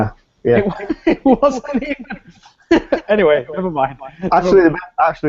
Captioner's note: laughs